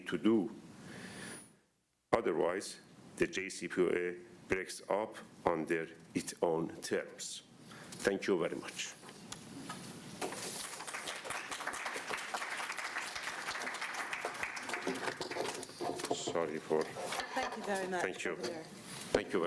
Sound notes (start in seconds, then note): 10.3 applause